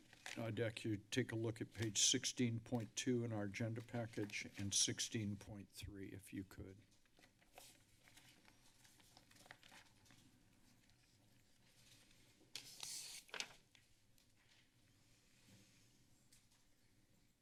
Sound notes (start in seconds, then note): 7.1 paper rustling